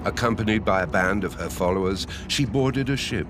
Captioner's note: none